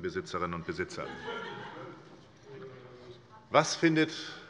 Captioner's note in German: Heiterkeit bei der SPD